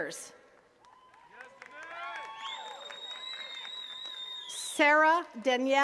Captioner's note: attendees cheering and clapping